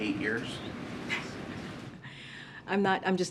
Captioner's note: laughs